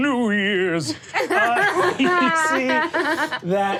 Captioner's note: all laugh